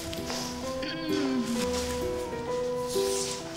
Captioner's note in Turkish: Şirin boğazını temizliyor